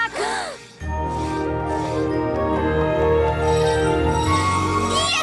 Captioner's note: cutie mark ringing